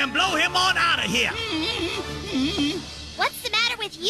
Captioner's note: whimpering